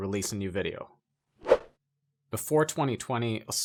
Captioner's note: air whooshing